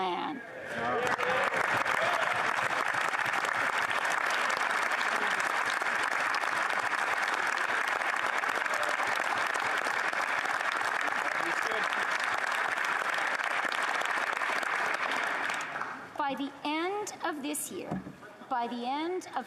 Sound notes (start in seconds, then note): 5.1 applause